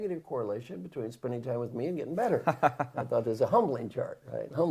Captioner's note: laugh